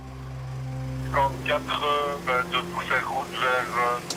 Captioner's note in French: Audio parlé en français